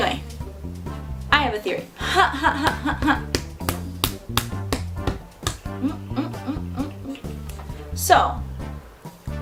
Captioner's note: huh, huh, huh